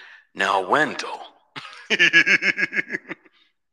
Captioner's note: electronic Voice; laughs